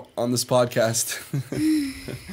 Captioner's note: chuckle